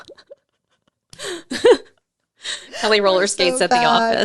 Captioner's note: laughing